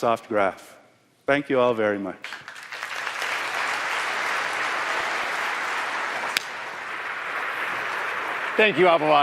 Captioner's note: applause